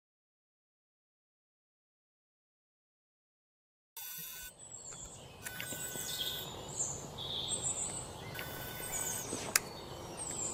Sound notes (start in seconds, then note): 3.9 camera and bird sounds